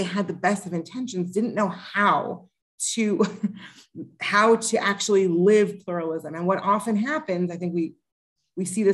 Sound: laughter

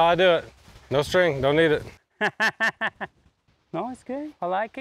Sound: laughs

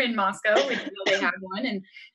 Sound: coughs

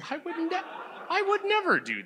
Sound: audience laughs

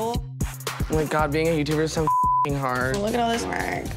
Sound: beeps

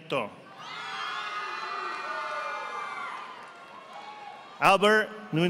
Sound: audience applauding

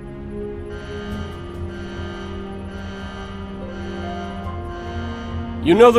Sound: alarm Bells

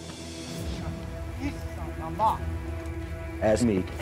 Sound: speaking crow

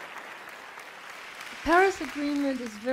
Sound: applause

